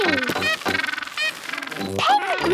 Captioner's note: honking